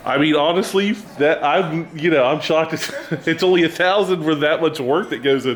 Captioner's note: laughs